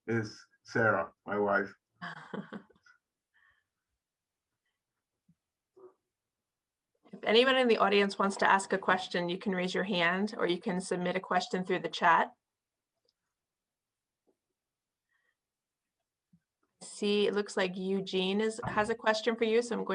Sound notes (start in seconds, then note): 2.0 laughing